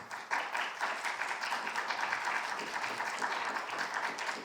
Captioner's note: audience applauding